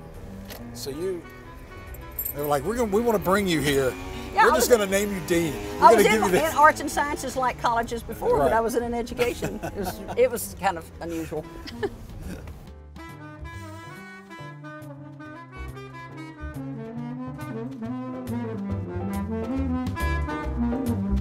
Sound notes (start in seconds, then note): 12.2 laughs; 13.1 jazzy saxophone music